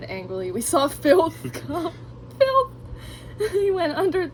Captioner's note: laughs